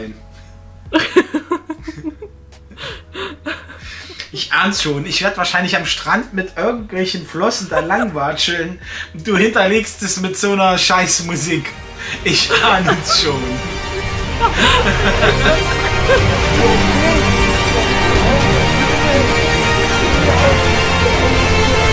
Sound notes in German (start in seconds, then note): 11.4 Diabolisches Lachen